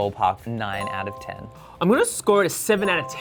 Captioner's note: bell dings